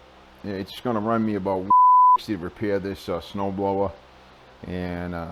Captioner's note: beep